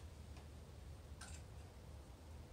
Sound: click

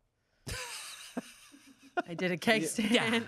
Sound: laughs

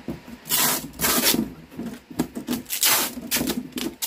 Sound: tape ripping

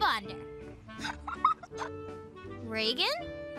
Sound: girls laughing

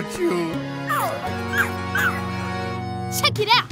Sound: barking

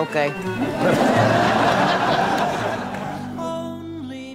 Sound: audience laughing

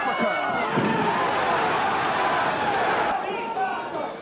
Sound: crowd cheers

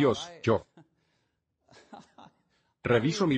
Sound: laughs

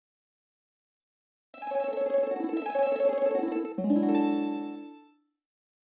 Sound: 16-bit chime plays

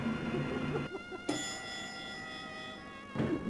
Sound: me quietly laughing in my mic; elevator bell rings; elevator door opens

